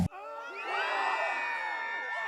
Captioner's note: crowd screaming sfx